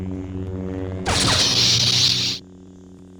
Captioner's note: saber cutting